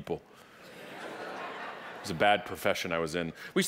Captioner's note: audience laughing